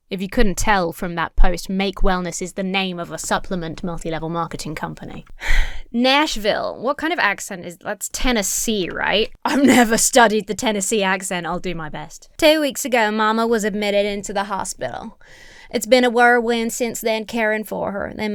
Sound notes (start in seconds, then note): 5.3 sighs